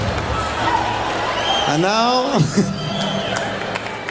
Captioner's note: laughs